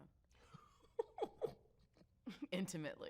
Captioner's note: chuckles